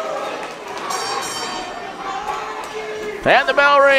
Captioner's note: bell dings